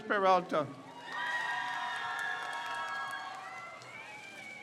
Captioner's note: crowd cheers